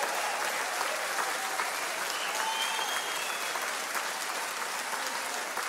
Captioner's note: audience applauds and cheers